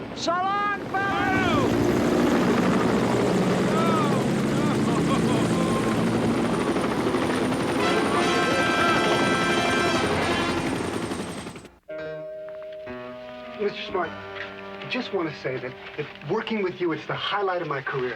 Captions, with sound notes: - So long fellas! - No! (helicopters whir) Oh no! (helicopters whir) (dramatic horn music) - Mr. Smart, I just wanna say that working with you is the highlight of my career.